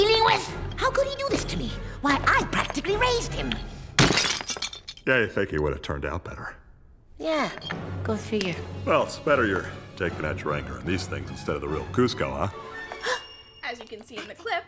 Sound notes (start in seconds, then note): 3.9 smashes; 13.1 gasps